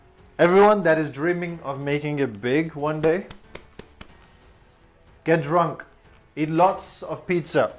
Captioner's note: pat on belly